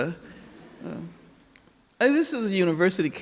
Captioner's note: audience laughing